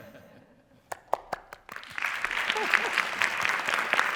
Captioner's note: applause